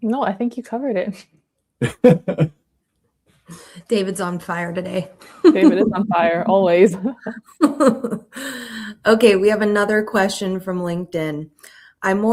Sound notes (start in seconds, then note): 1.8 laughing; 7.6 laughing